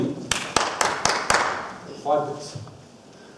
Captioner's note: claps five times